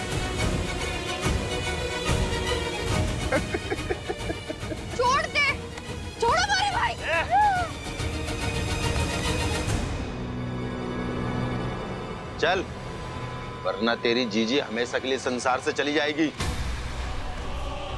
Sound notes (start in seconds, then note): 0.1 tense music; 3.2 laughing